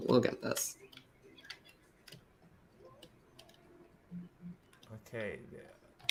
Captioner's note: clicking